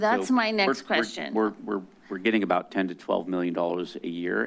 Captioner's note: stuttering